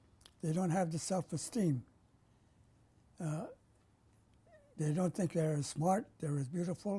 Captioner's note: pauses for 3 seconds